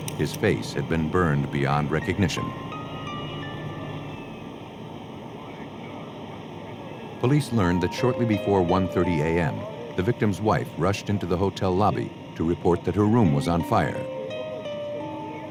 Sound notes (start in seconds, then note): 3.1 sirens